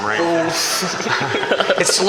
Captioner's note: laughter